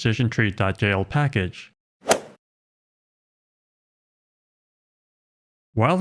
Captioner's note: golf ball hit sound effect